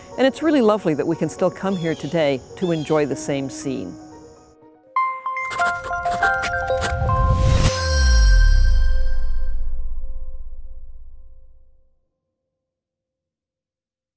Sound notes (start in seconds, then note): 5.4 scribbling